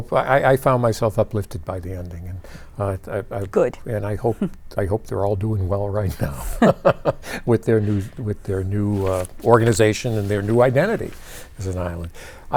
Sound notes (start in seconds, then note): 6.2 laughs